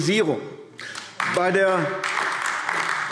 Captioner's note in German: Beifall AfD